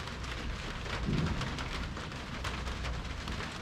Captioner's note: distant thunder